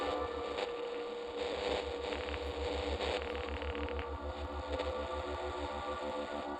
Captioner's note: radio static crackles; soft tense music